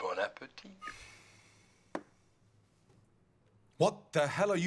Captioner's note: guy speaking in foreign language